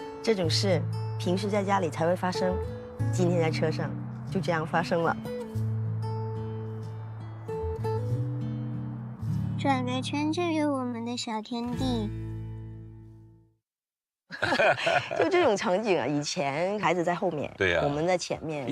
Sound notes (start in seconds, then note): 14.3 laughs